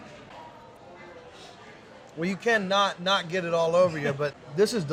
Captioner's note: sniffing